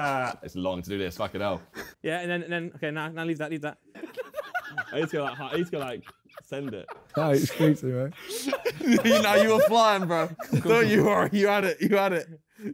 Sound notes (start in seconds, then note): 4.0 laughing